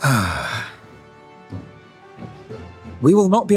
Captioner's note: sigh